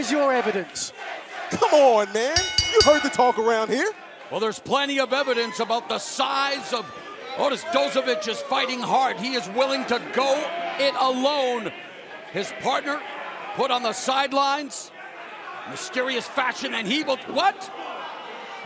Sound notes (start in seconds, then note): 2.3 bell ringing